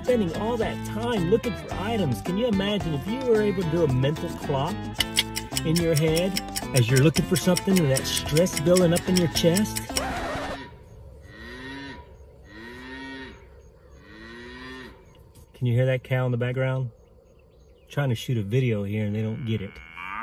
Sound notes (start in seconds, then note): 5.0 clicking; 9.7 screeching; 10.5 cow mooing; 19.2 cow mooing